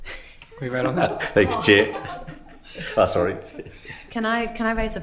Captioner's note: all laugh